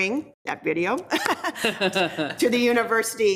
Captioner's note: people laughing